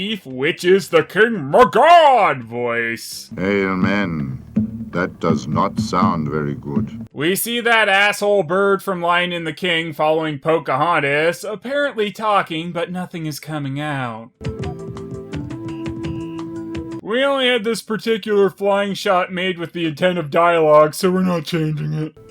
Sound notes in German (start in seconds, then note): 6.9 'Voice-Over